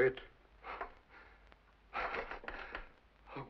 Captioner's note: whimpers